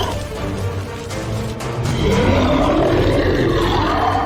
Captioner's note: loud Roar